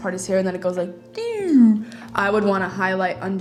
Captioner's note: descending noise